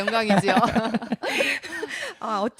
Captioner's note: 웃음